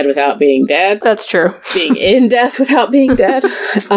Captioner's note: laughs